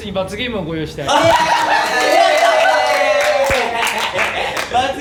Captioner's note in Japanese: 爆笑